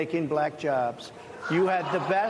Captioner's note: laughter